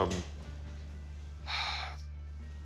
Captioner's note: sighs